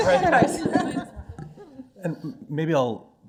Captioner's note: laughter